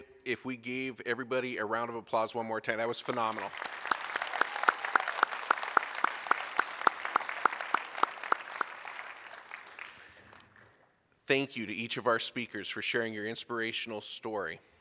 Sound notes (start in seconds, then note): 3.1 applause, Cheering